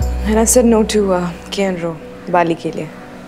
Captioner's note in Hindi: none